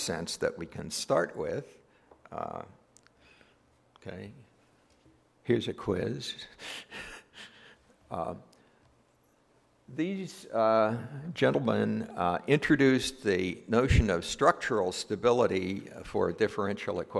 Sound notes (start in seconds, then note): 6.6 laugh